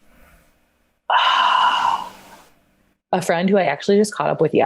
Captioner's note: sighs